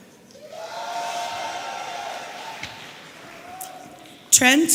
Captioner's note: audience cheering